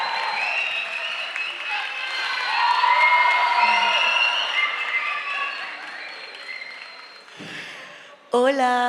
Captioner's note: applause, cheers and shouts from the enthusiastic audience